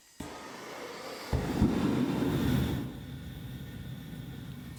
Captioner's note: furnace roaring